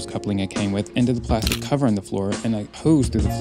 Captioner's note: camera shutter